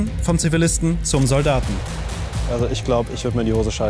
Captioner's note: distant shots